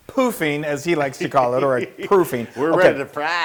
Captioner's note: laugh